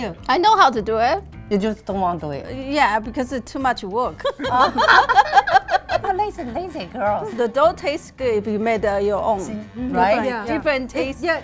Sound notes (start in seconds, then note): 4.2 laughing